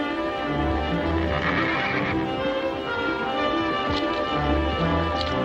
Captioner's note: light pleasant music; horse neighing